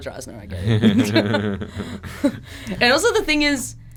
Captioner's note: laughter